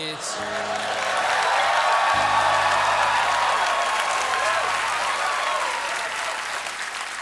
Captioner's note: cheers and applause